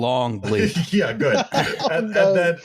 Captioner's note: laughs; laughter